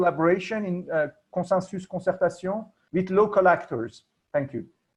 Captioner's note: non-english speech